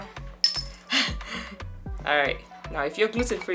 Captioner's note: bottle cap clinks; chuckles